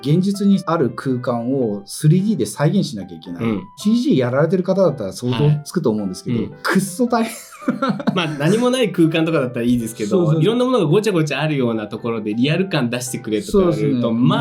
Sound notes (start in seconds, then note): 7.3 laughs